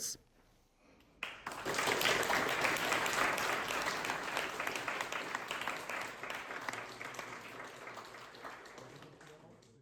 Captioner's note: audience applauding